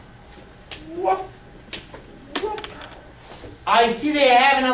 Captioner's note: teacher whoops